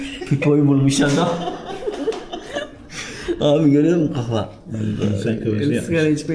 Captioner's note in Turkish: kahkaha